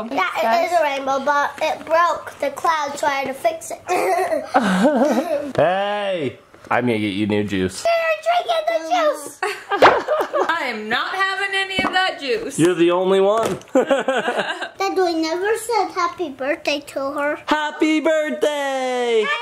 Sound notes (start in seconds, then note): 9.4 laughs; 13.7 laughs